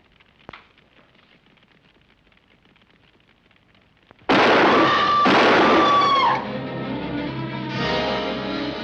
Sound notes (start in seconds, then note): 4.2 gunshots